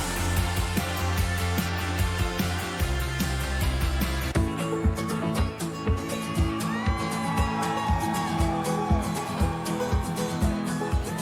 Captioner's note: cheers and applause